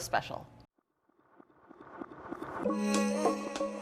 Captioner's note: plane engine roars; upbeat music